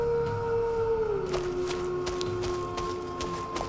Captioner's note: howling